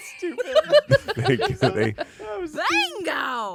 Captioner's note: everyone laughs